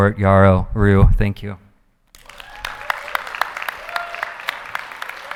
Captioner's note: audience applauding